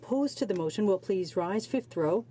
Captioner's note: speaking in french